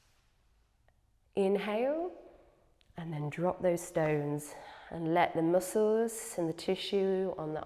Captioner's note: exhales